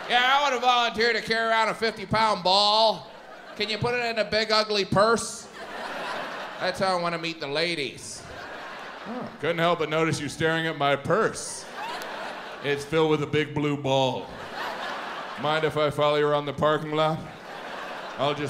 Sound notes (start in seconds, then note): 5.4 audience laughs; 11.4 audience laughs